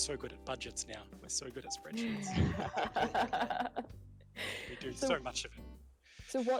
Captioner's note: laughter